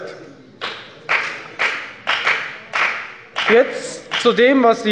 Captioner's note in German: Beifall bei der FDP